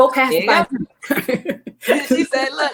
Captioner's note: ladies laughing